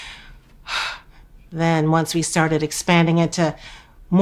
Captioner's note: sighing